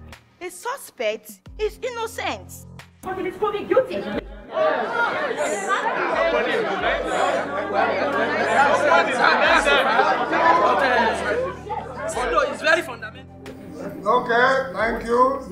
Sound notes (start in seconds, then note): 3.4 distinct chatters